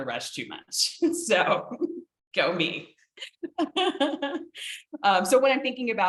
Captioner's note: laughing